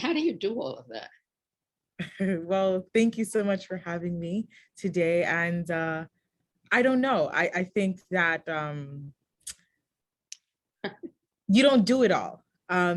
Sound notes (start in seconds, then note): 3.0 chuckles